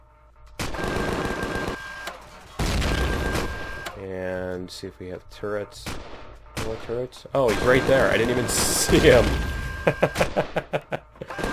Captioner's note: laughs